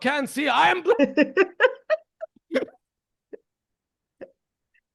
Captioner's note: laughs